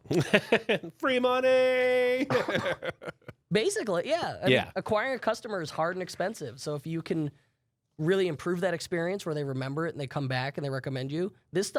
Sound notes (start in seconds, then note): 0.0 laughs; 2.2 laughs